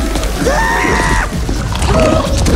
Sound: screams

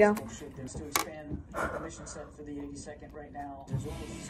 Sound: nommmm

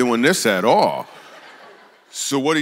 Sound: congregation laughs

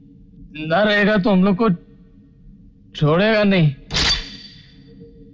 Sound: gun cocking

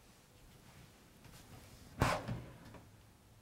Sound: drawer Opening

